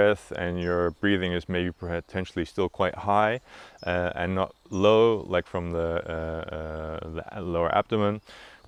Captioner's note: chest breathing